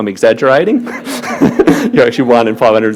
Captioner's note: laughing